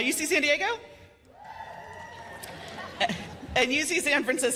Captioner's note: cheers and applause